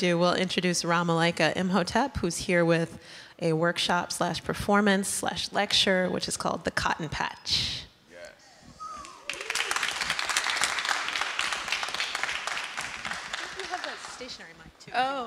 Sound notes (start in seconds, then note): 9.0 applause